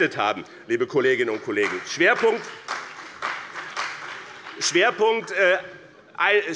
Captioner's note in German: Beifall bei dem BÜNDNIS 90/DIE GRÜNEN und der CDU